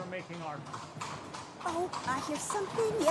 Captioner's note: horses clomping